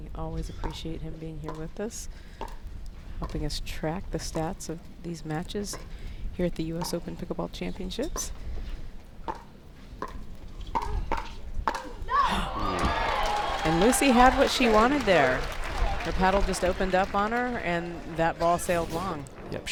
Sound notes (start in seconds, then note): 12.2 crowd applauds; 12.6 gasps